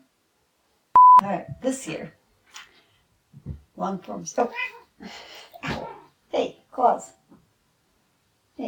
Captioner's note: meow